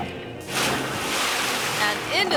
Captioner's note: water splashes